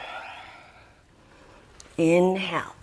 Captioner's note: deep breathing sounds